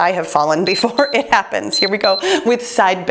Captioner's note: timer beeps